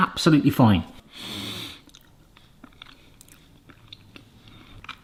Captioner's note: sniffs